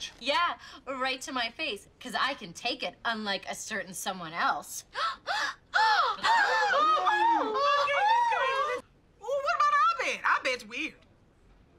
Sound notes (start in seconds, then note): 4.9 ANNIE gasps; 5.0 BRITTA mock gasps; 6.2 ABED makes more of an ‘Ahh’ noise instead of a gasp; 6.2 group mock gasps